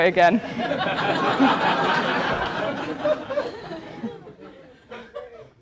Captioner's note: laugh